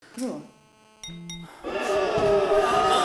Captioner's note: phone beeps; monster howling